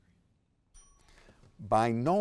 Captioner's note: timer chimes